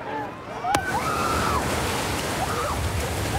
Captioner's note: excited screaming